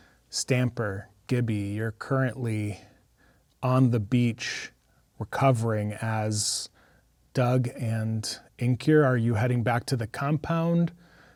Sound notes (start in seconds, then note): none